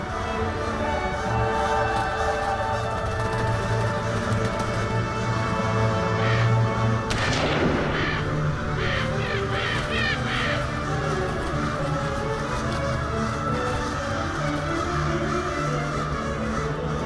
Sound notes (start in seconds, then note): 7.0 gun blazing; 9.9 crows crowing; 12.6 somber music